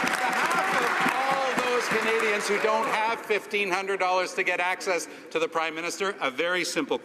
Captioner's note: some cheering and applause